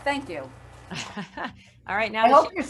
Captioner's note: laughs